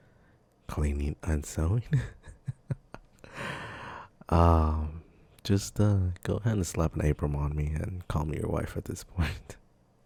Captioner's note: laughs